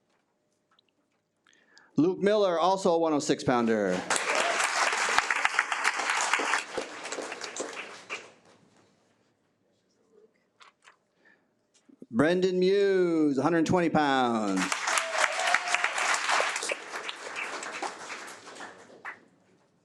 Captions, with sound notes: - Luke Miller, also a 106 pounder. (attendees cheer) Brendan Muse, 120 pounds. (attendees applaud)